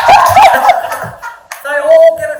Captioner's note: audience laughing